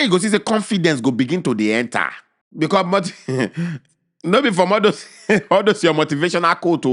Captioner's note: chuckles